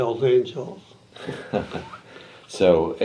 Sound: chuckles

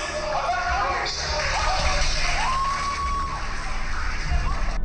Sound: crowd cheering

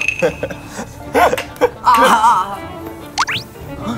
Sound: giggling; finger flicking

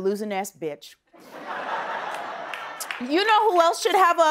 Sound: laughter

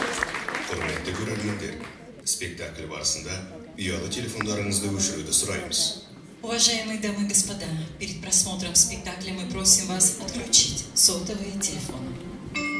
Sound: applause; speaking in Russian

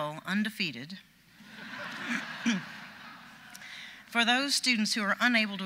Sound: audience laughs

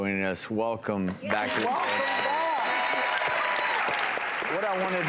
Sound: audience cheering

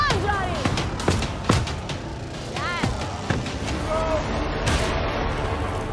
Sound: thudding and smashing

